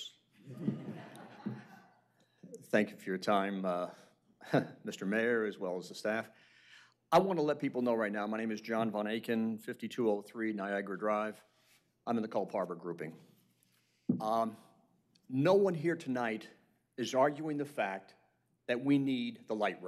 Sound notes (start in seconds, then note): 4.4 laughter